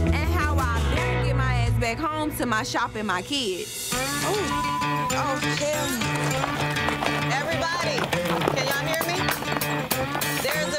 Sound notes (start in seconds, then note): 4.2 beep; 6.4 country music